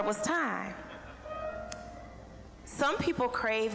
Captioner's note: scattered chuckling